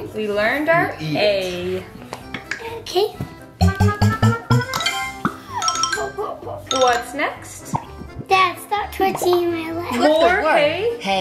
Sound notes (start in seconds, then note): 3.3 icon ringing; 3.6 booping sound